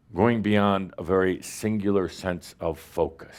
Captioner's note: none